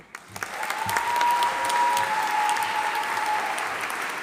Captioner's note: audience applauding